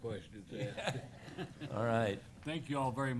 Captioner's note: laughter